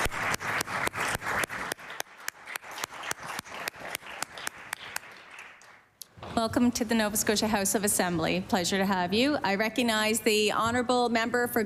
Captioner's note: applause